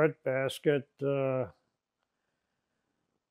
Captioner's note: pauses 6 seconds